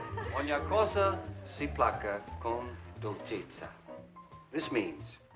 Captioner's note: speaking Italian